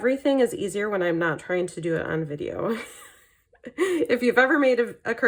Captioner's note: laughing